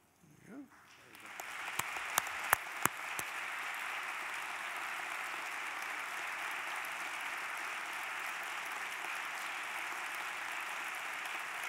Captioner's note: applause